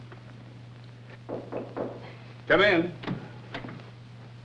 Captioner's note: Knocking